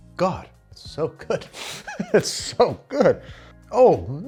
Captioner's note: laughs